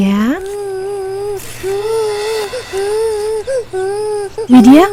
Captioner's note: cry